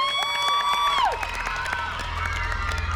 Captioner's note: applause